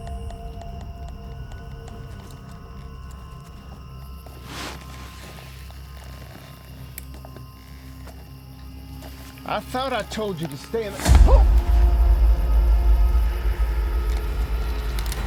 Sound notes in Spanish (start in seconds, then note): 4.7 crujido de lona; 5.9 huesos crujiendo; 10.8 gritos del sheriff; 15.0 música dramática